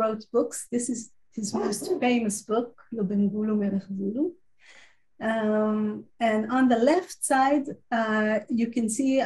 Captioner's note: Hebrew